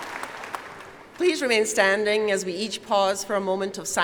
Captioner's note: applause